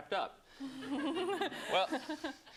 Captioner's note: laughter